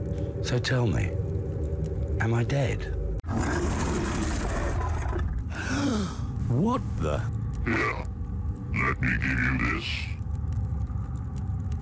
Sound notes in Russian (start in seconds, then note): 3.3 пугающий рык; 5.4 ахает